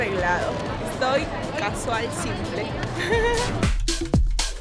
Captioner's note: laughs